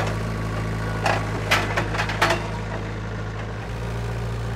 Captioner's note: metal clanking